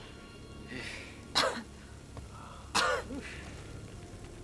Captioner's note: coughs